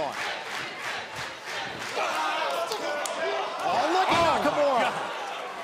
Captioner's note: crowd cheering